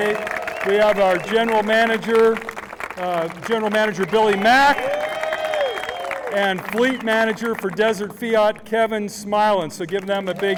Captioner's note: applause